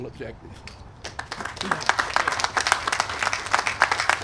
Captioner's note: applause